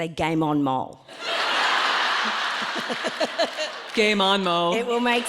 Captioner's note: audience laughing